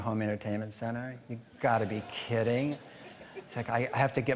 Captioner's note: audience laughing